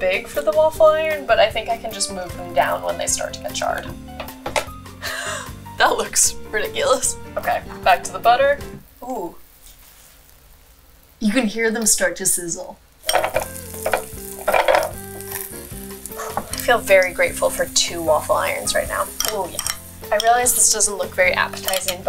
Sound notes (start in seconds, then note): 4.6 closing waffle iron; 5.4 laughing; 10.1 waffle iron sizzling; 12.9 waffle iron sizzling